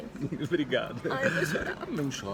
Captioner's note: chuckles